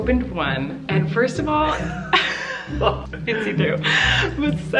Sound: laughs

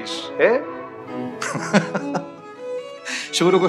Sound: laughs

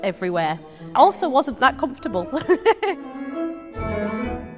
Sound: laughs

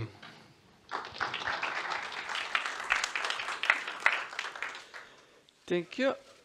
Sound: applause

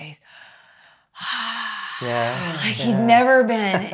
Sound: sighs

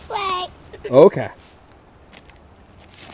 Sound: voiceover

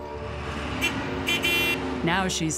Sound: forklift engine roaring; horn honking

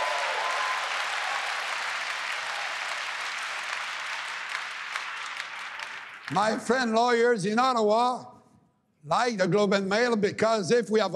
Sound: applause

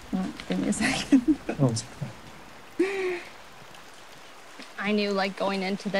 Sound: laughs

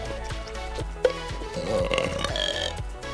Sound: burping

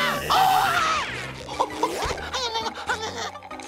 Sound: screaming; panting

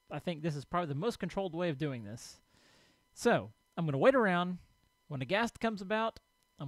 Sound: none

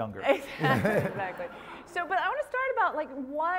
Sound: laugh

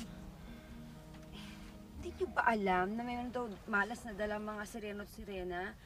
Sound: sighs

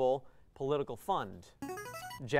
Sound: player buzzer

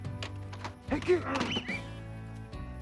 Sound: grunting noise

